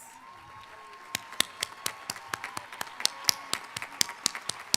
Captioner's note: audience applauding